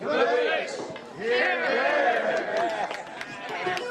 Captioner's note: crowd cheering